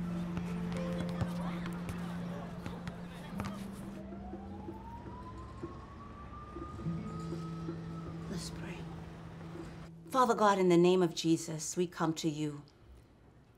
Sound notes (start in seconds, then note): 3.6 siren blaring